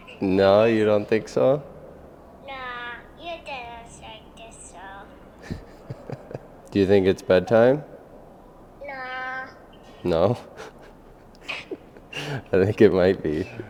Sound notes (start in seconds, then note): 5.4 Mike Matheson laughs; 10.4 Mike Matheson laughs